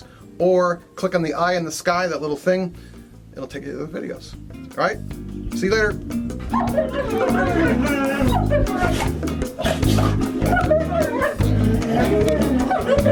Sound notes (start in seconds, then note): 6.5 dogs whining and barking; 9.1 playful music